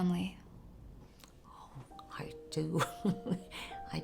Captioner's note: chuckles